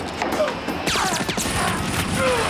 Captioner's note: groaning